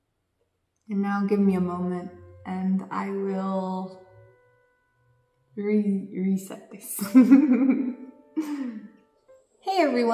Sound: laughs

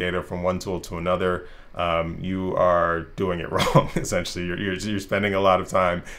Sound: risas

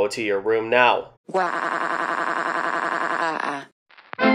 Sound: crying; vintage music

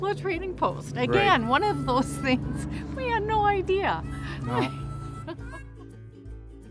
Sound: laughs

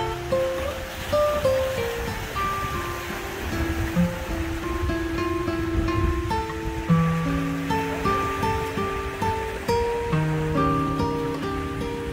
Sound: ocean Sounds

